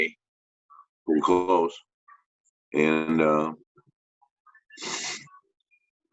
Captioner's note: sniffs